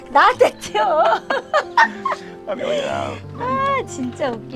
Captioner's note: both laughing